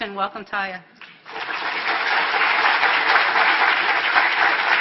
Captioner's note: applause